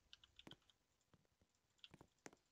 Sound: clicking mouse

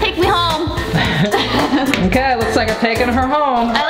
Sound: laughing

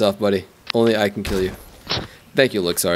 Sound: shoots gun

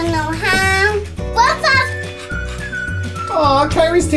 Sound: panting

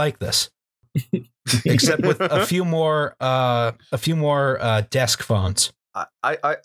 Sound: laughter

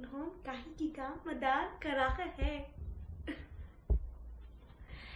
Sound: speaks Hindi

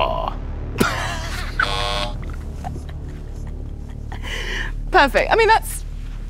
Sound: Jessie laughs; buzzer sounds

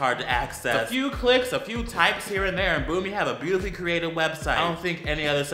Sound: boom

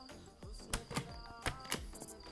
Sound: click

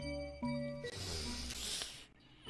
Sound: breathes

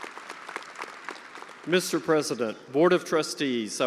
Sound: attendees applauding

